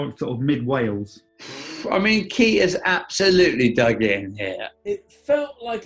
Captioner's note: exhales